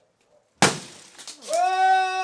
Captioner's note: loud thud